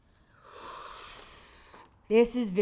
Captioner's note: inhales sharply